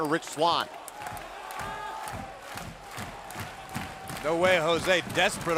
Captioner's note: crowd cheering